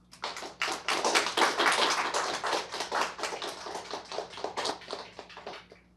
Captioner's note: applause